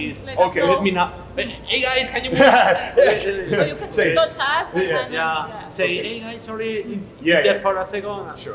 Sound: laughs

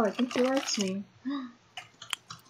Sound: gasp!

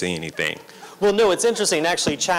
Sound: laughter

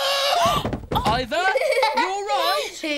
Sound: thud

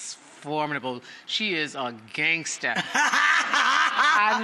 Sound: host laughs

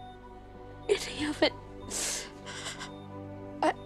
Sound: sniffles

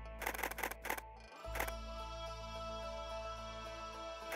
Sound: camera shutters

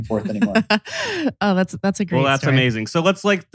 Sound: laughs

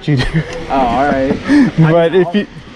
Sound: laughs

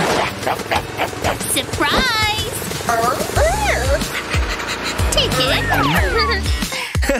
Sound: barking; making happy sounds

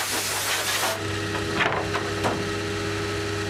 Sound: rumbling, machine noises

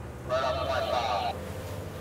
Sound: radio

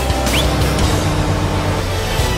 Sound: whistle

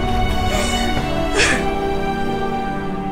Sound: Poonam crying

